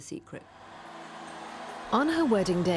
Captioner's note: crowds cheering